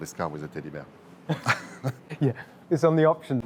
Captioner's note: they laugh